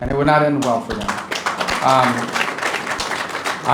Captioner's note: applause